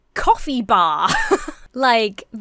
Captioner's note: laughs